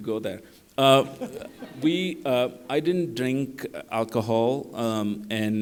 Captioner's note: laughter